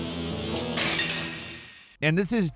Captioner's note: glass shattering